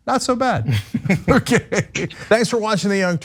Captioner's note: laugh